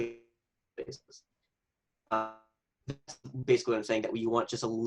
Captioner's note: audio lags